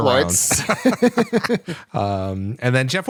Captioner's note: laughter